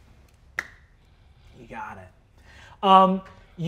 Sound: claps hands softly

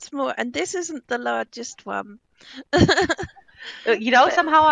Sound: laughing; laughing

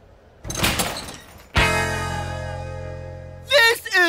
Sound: door opening

